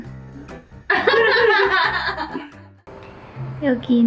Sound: laughs

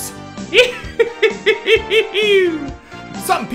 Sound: laughing in creep

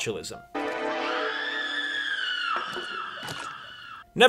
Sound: scream

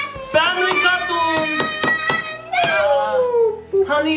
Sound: child screaming

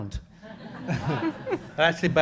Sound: audience laughing

